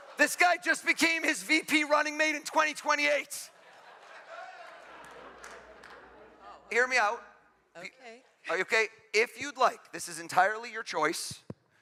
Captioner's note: laughter